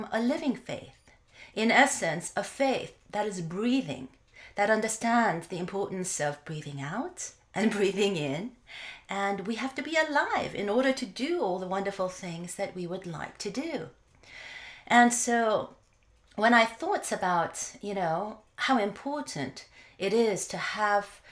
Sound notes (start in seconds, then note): 7.6 laugh